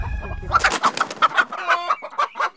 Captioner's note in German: Empörtes Gackern